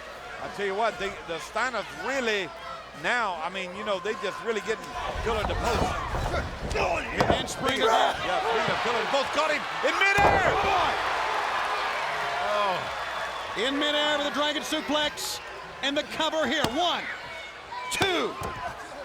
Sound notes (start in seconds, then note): 11.4 crowd cheering